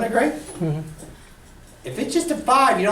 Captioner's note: voiceover